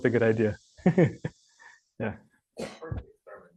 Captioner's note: chuckling